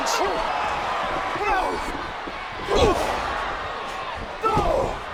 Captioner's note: both grunting